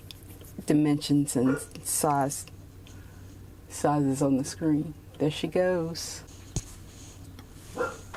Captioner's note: dog barking; barking continues